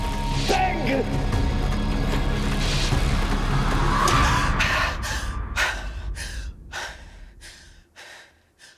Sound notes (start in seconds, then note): 3.9 Jeanne Marie gasps